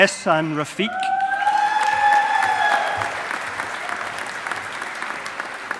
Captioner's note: audience applauding